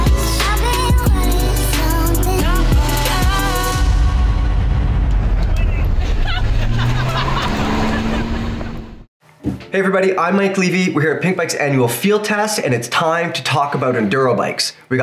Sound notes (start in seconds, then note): 5.9 laughter